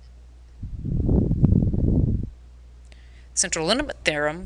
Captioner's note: air blowing